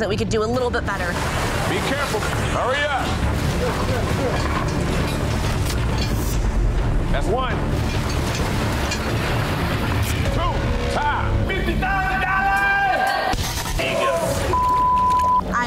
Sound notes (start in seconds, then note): 3.1 urgent music; 10.9 metal clanging; 13.8 dramatic music; 13.8 scene whooshing